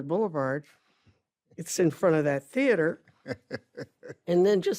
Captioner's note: ben chuckles